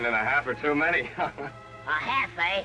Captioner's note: laughs